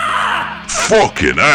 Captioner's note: yelling in glorious triumph